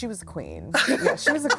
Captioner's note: laughs